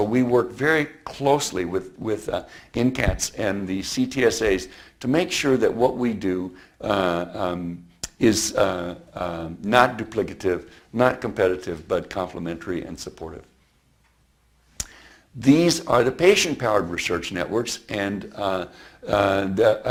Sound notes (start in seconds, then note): none